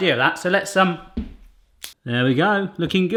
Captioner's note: thud; quick snipping